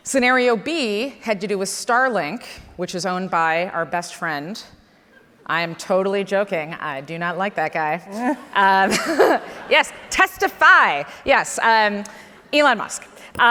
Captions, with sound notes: Scenario B had to do with Starlink, which is owned by our best friend. I am totally joking, I do not like that guy. (laughs) Yes, testify, yes, Elon Musk.